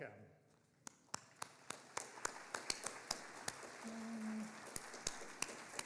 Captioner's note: audience applauding